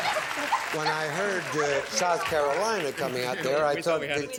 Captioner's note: chatter